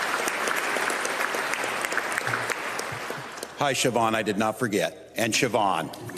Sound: applause

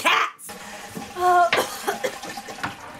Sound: toilet flushing, coughing

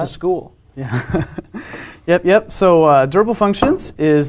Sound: laugh

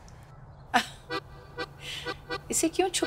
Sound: laughs

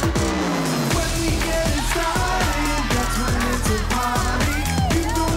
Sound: girls scream

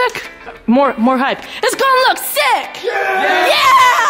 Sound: shouting

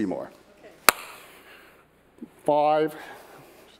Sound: claps hands

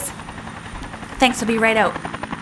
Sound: helicopter gets louder

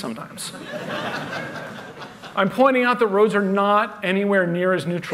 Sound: laughter

